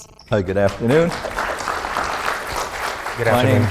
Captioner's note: audience applauds